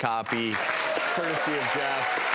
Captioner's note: audience applauding